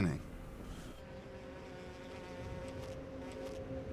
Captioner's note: fly buzzing